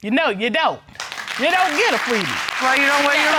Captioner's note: audience clapping